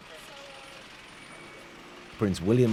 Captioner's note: engine running